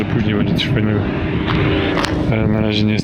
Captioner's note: noise from the steelworks